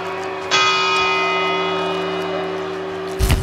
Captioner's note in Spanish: Segunda campanada; Tercera campanada